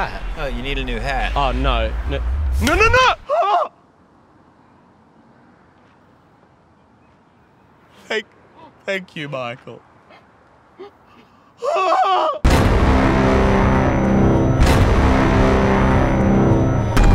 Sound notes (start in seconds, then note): 2.9 shocked yelp; 4.0 extended pause; 7.6 crying; 11.6 screams; 16.9 sirens